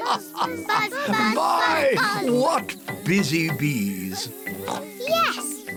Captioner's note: laughs; oinks